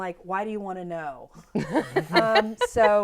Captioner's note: laughter